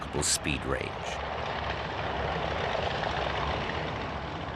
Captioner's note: plane roaring